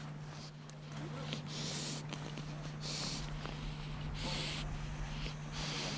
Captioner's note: wolf heavily breathing